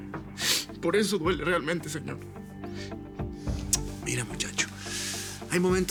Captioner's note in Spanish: Sollozos